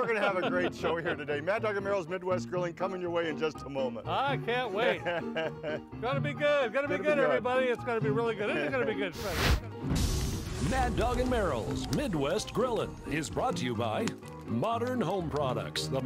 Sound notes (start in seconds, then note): 4.7 laughs; 9.1 flame scorch sound